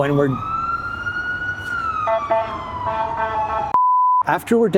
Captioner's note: sirens